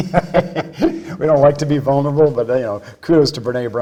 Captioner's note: laughs